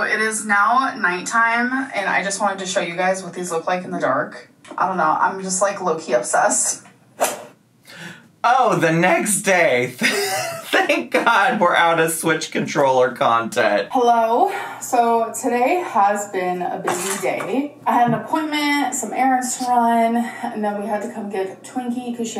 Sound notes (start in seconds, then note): 13.3 laughing